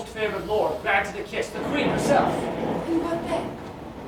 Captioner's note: thunder